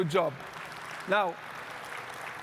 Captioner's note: audience clapping